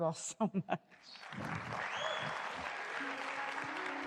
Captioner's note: applause